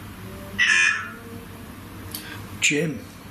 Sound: device speaks

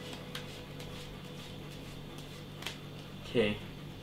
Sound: still shuffling

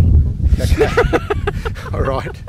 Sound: laughing

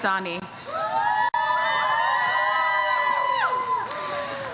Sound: audience cheers

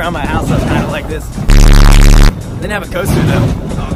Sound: static

